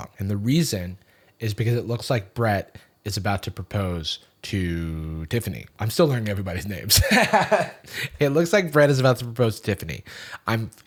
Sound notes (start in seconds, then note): 6.9 laughs